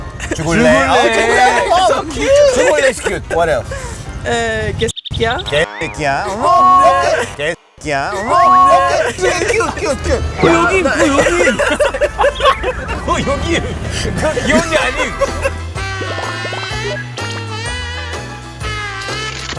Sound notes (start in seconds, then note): 12.2 laughter